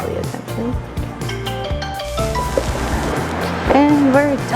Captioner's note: phone Rings